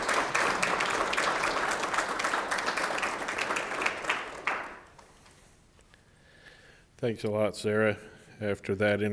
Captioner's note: audience applauding